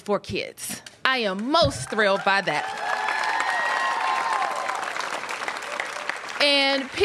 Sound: applause

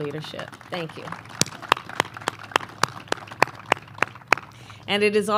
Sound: applause

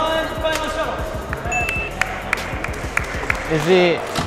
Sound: everyone clapping

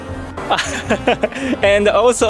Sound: laughs

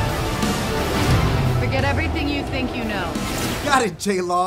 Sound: voiceover

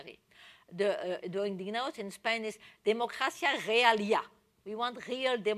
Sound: spanish

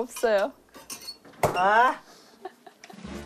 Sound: shrieking

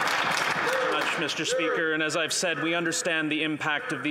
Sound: applause

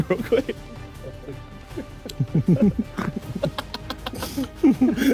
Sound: laughing

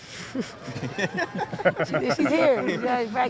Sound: reporters laughing; Dawn chuckles

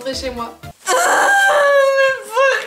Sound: shedding Tears

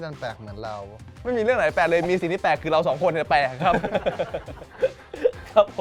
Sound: laughs

